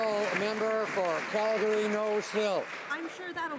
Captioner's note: some Applause